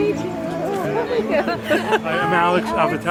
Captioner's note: group chatting